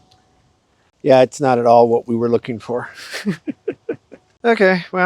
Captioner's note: laughs